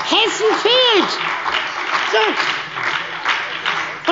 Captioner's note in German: Beifall bei der SPD